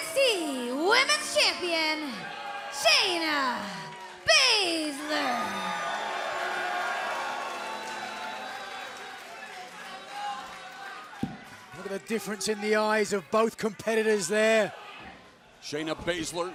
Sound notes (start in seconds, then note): 5.8 crowd cheering